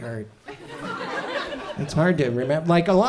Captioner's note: audience chuckles